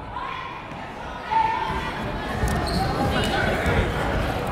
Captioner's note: chattering